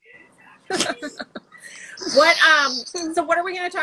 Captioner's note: laughing